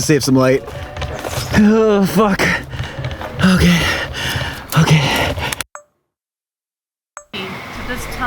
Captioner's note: heavy breathing